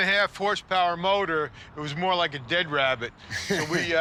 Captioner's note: laughs